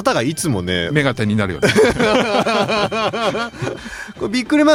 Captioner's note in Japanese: 笑い